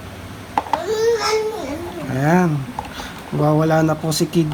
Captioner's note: baby sounds